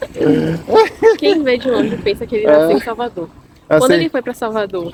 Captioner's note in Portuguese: risadas